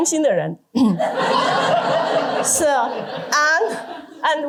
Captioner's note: laughter